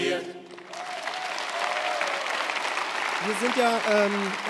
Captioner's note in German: Applaus